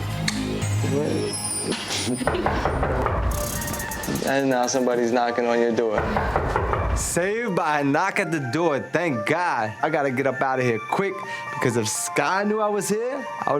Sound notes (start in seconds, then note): 2.2 knocking door; 5.9 knocking door